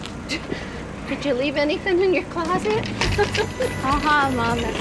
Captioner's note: laughs